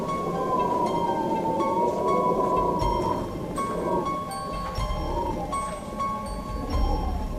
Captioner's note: eerie music; wind whistling